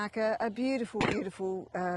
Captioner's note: coughs